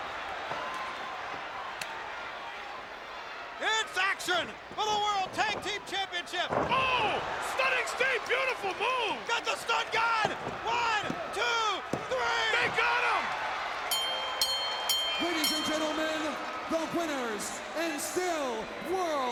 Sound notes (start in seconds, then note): 13.8 bell rings